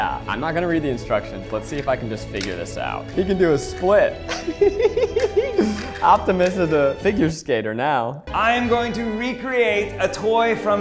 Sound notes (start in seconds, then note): 4.2 laughing